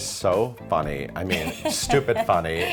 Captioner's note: laughing